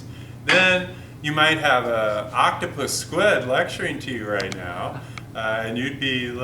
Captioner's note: technician chuckes